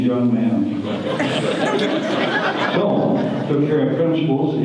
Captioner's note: audience laughter